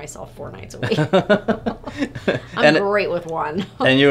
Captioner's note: both laughing